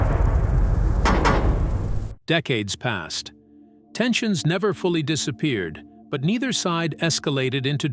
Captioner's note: weapons firing